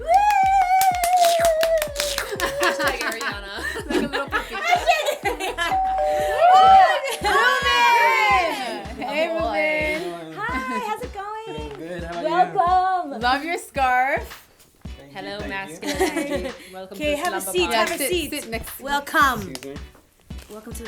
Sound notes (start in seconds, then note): 0.0 cheering and clapping; 3.9 laughter; 5.7 doorbell rings; 5.8 cheering